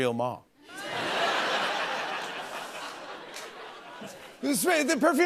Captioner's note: laughter